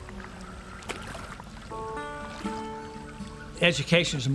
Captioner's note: water rippling